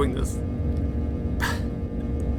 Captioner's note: wincing